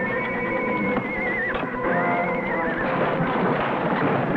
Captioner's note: horse whinnying